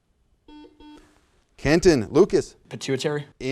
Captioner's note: buzzer sounds